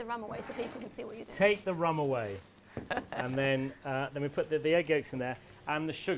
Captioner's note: laughs